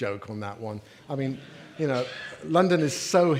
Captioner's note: audience laughing